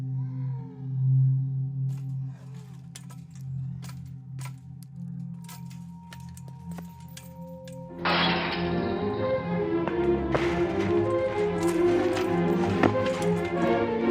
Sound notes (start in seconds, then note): 0.0 clones snarling continuing; 0.0 ominous tone continuing; 1.9 metal fence clinking; 8.0 metal fence crashes